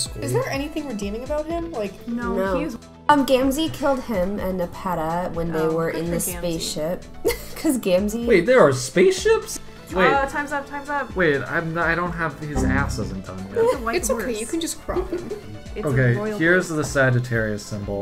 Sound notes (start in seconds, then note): 7.3 laughs; 13.1 laughs